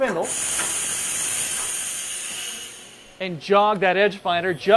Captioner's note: machine working